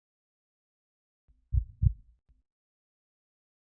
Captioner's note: heartbeat